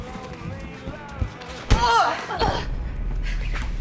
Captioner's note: Jill groans